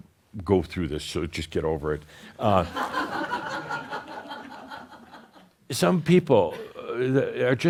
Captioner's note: some laughter